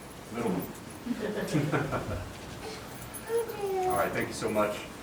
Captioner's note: all laughing